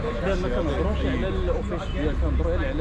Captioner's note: speaking in Arab